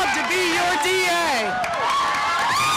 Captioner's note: cheering